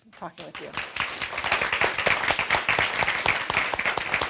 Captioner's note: audience clapping